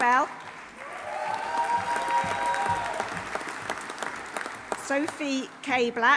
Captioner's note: audience applauding; audience cheering